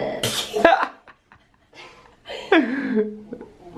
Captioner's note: laughter